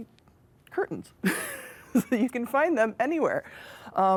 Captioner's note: laughs